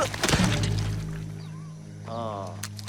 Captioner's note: Sam yells